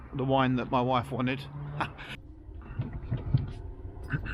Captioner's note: laughs